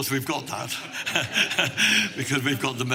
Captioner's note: laughing